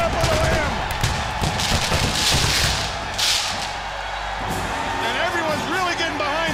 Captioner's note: crowd cheering